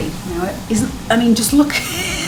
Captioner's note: laughs